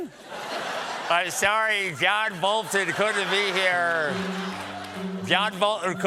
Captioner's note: laughter